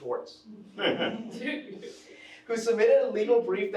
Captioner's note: attendees chuckling